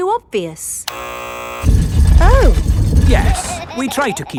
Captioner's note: buzzer sounds